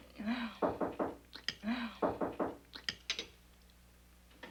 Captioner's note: laughing; knuckles rapping